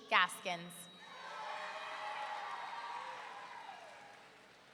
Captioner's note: audience cheering